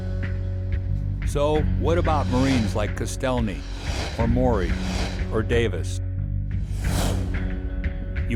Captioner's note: voiceover